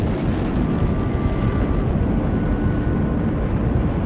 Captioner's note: rocket launching